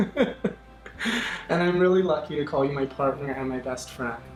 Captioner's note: laughs